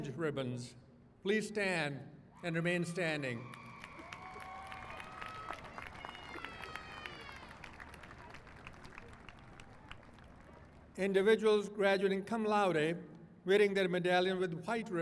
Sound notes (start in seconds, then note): 3.4 applause